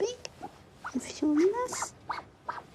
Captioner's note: kiwi squeaks